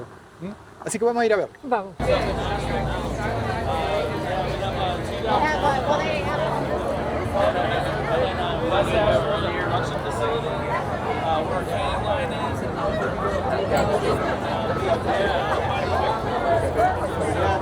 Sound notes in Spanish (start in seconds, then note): 2.1 sonido ambiente de feria